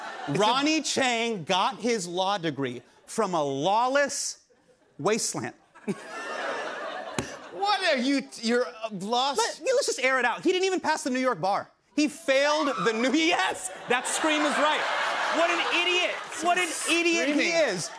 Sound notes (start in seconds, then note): 5.6 laughter; 12.8 audience member shrieks